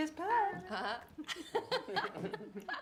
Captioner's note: todos riseando